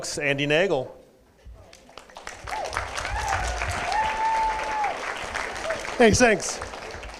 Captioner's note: applause